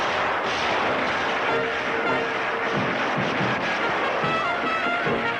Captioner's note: guns blasting; lively music; bullets ricocheting; lively music